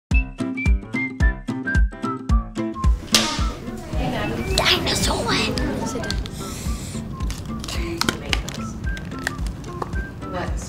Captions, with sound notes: [Upbeat music plays] Action! [Excited whispering] Dinosaur! [Packages opening, kids smelling] ...